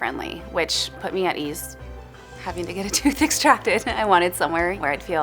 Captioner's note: chuckles